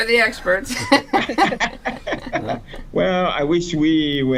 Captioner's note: laughter